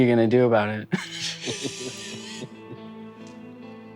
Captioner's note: laughing